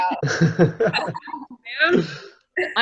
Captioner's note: group laughing